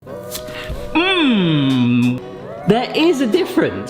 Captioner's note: upbeat music; groans